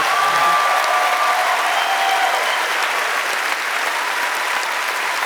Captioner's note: applause